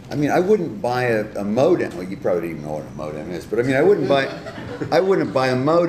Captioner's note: laughter